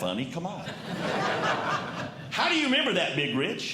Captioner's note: audience Laughing